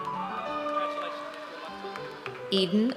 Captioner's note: audience cheers